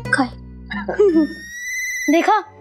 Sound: chuckling

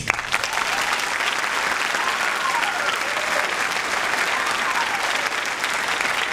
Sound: audience cheering and clapping

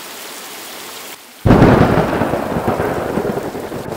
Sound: thunder

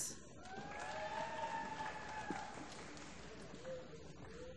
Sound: applause

